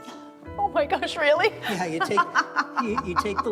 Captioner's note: laughs